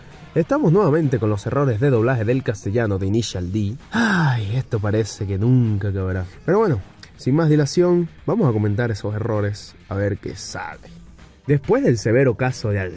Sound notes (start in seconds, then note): 3.9 sigh